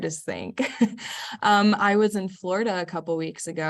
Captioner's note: laugh